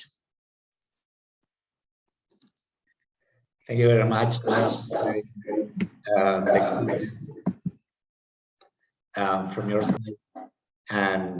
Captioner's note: echo